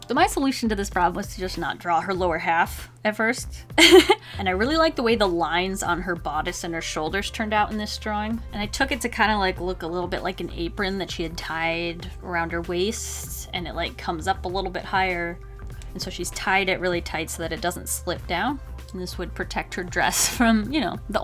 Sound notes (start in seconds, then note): 3.8 laughs